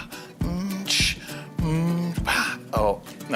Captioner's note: vocalising and making percussive noises